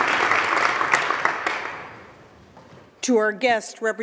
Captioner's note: applause